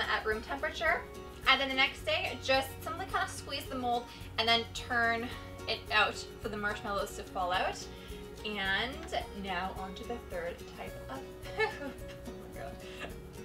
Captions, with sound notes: at room temperature, and then the next day, I'm gonna kinda squeeze the mold and then turn it out for the marshmallows to fall out, and now on to the third type of (laughing) poop, oh my god!